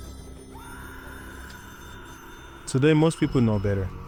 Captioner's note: phone ringing; woman screaming